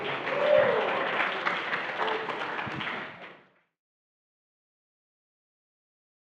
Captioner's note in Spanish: Aplausos